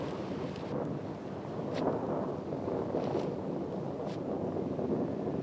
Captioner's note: thunder continues rumbling